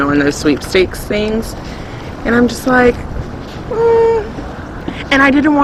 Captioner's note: skeptical noise